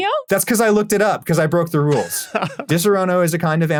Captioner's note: laughs